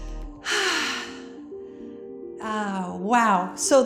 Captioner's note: exhales forcefully